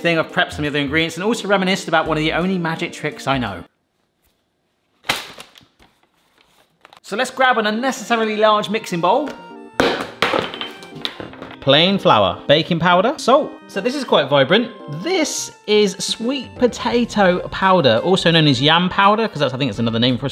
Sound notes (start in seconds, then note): 5.2 paper bag rustling; 9.8 bowl thudding